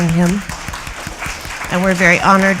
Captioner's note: applause